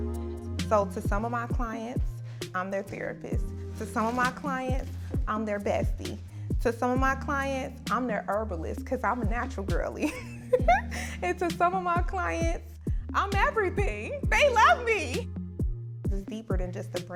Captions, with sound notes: So, to some of my clients, I'm their therapist. To some of my clients, I'm their bestie. To some of my clients, I'm their herbalist, 'cause I'm a natural girlie. (laughs) And to some of my clients, I'm everything, they love me! It's deeper than just a brand.